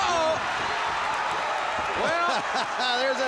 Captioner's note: crowd cheering